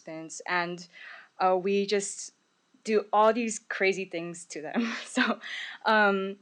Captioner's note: laughs